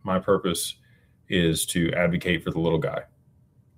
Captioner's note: none